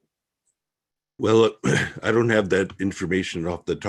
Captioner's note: coughs